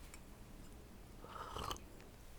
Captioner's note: slurp